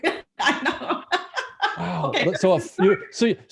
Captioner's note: laughing